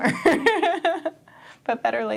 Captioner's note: laughs